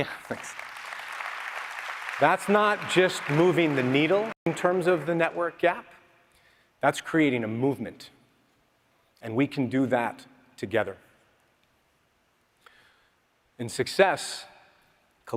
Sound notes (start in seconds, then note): 4.3 applause